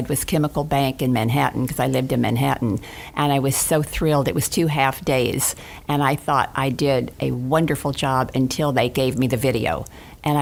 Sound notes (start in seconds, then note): none